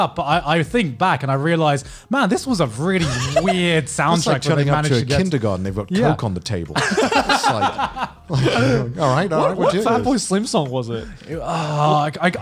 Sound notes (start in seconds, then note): 6.8 laughs